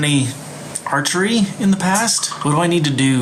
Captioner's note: computer notification sound